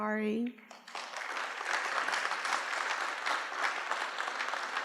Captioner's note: applause